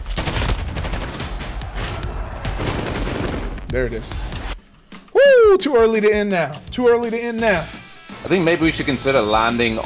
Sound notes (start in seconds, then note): 5.1 shouts